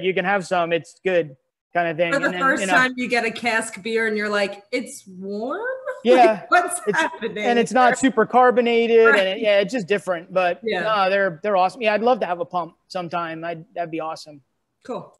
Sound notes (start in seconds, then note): 6.0 laughs